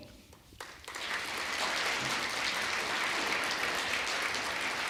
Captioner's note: audience applauding